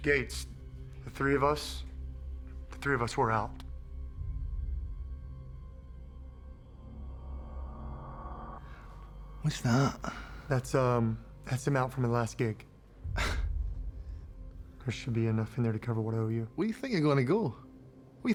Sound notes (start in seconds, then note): 9.4 scottish accent; 13.1 sighs; 16.7 scottish accent